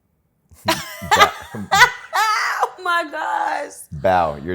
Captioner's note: laughs